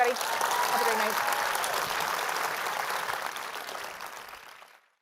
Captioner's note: applause